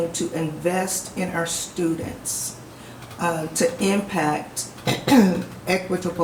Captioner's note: clears throat